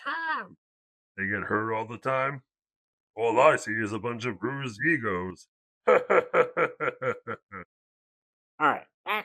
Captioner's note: laughs